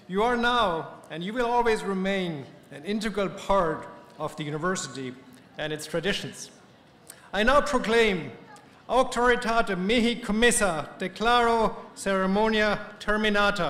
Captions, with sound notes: You are now, and you will always remain, an integral part of the university and its traditions. I now proclaim-- [SPEAKING LATIN]